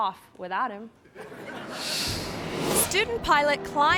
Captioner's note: audience laughing; screen whooshes